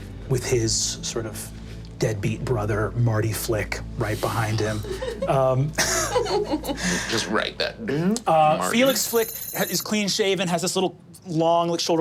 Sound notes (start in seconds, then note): 5.7 laughing